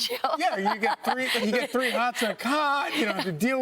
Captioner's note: laughter